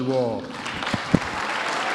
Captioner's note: applause